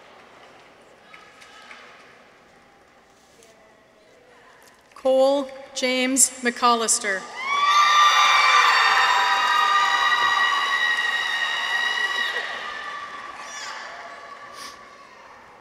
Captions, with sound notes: Cole James MacCollister. -(people cheer) -(audience applauds)